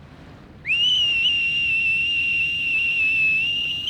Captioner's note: whistling